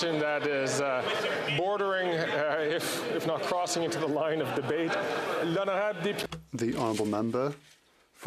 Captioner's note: chatter